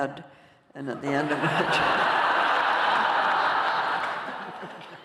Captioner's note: laughter